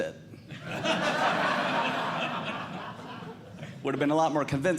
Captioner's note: audience Laughing